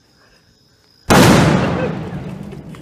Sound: big explotion

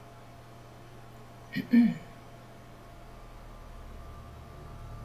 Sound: clearing throat

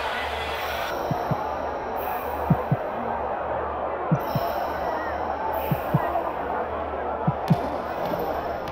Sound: audience noise; heavy breathing and heartbeat; stick tapping

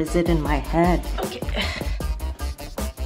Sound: sighs; upbeat hip hop music

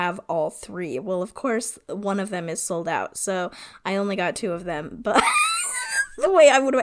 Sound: wheeze laughs

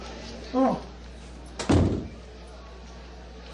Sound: door closes

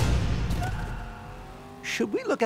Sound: engine revs; faint scream

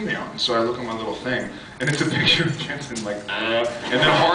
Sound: laughs

